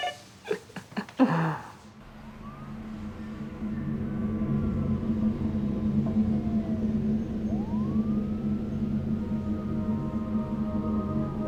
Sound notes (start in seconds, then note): 0.0 chuckling; 5.9 siren wailing